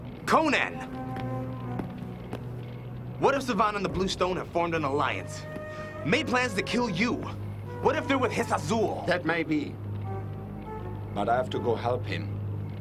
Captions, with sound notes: - Conan! (footsteps) What if Savann and the Blue Stone have formed an alliance? Made plans to kill you? What if they're with Hissah Zul? - That might be but I have to go help him